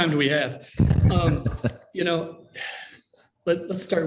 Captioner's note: laughs